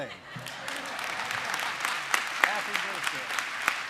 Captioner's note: applause